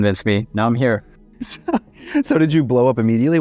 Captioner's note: both laugh